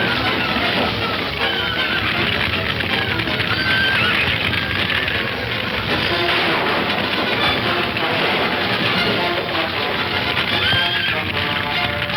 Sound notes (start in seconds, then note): 2.2 horse whinnying; 5.0 dramatic music; 5.0 fire crackling